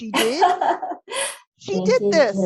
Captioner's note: laughs